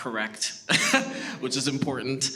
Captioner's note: laughs